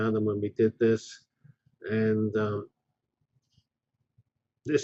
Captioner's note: pause